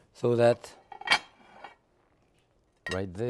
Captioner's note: plate clanging